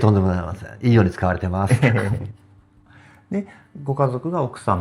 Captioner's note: laughs